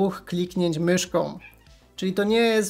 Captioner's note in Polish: meow